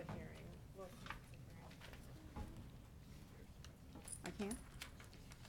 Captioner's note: people chattering